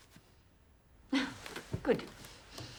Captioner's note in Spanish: risas